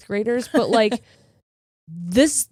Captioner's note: laughing